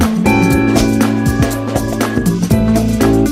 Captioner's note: swish